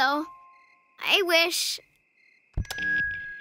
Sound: microphone feedback

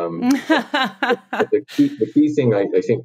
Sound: laughs

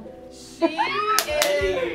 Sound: squealing

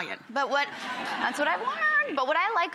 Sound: audience laughing

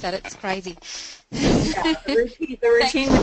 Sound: laughs

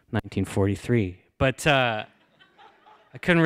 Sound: laughter

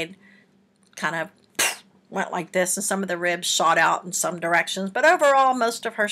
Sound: poof

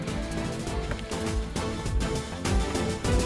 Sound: door opens

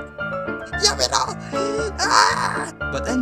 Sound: saying in JAPANESE

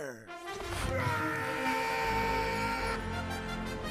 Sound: scream

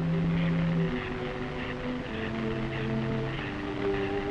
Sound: electrical crackling

